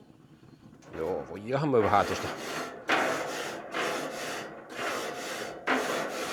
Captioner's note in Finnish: läähätys